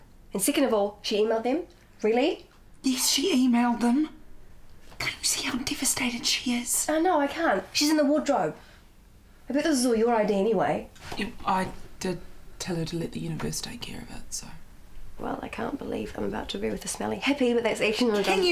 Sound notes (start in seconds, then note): 4.9 whispers